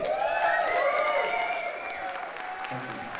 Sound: cheers, applause

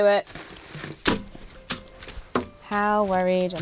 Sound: rustling and banging

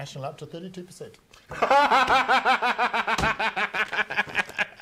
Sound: laughing

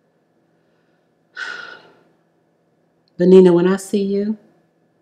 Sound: sighs loudly

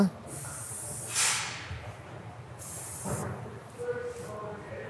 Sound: spray can hissing

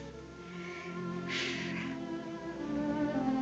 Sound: sighs

